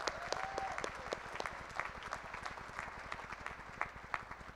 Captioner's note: applause